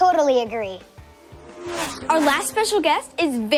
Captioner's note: car engines roaring